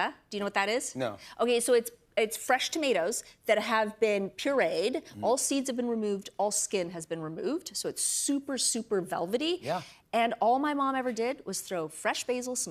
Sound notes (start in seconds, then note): none